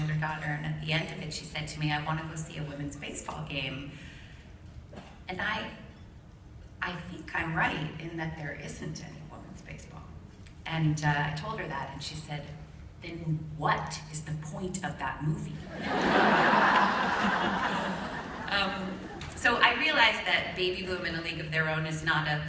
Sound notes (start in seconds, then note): 15.7 laughter